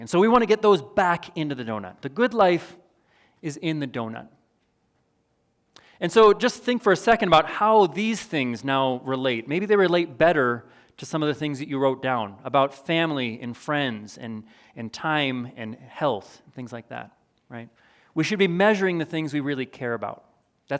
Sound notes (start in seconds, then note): none